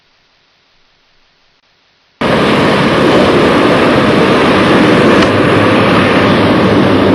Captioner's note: train sounds